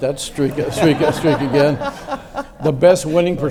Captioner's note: audience laughs